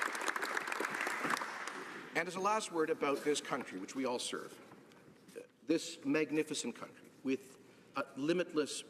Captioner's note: applause